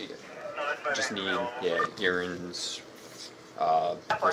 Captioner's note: radio chatter